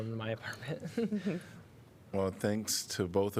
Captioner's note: laughter